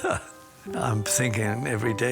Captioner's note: chuckles